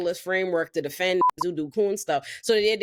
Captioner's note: beep